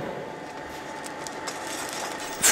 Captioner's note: metallic scraping